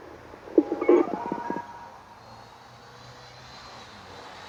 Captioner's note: telephone noise